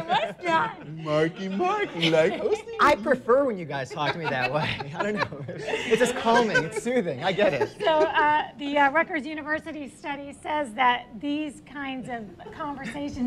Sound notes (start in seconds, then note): 8.2 laughter